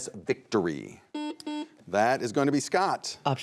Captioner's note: buzzer buzzes